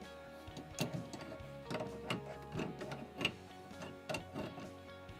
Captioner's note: clanking sounds